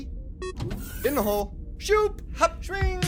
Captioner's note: sound of a pneumatic opening